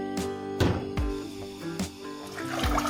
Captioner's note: boiling water